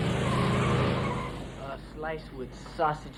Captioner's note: engine roaring; tires screeching